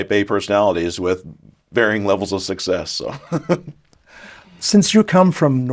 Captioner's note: chuckles